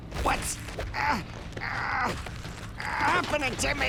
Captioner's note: grunting